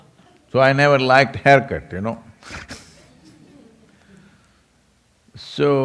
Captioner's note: laughs